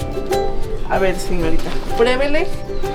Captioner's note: speaking Spanish